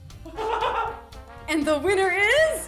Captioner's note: laughter